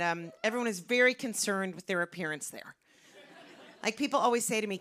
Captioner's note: light laughter